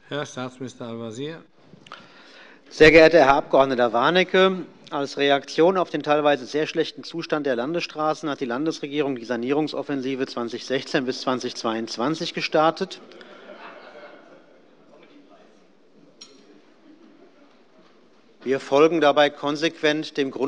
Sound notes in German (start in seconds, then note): 13.0 Lachen bei Abgeordneten der SPD